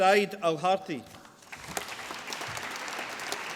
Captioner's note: applause